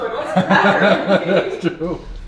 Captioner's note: laughs